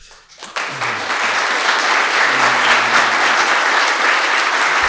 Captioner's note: attendees applauding